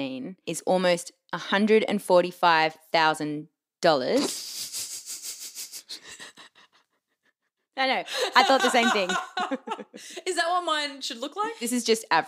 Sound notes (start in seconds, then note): 4.3 laughs